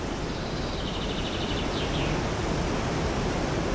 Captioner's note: water rushing, chirping